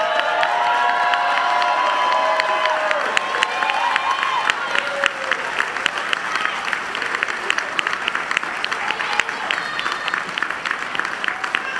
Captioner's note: cheers and applause